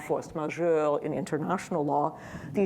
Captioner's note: speaking in foreign language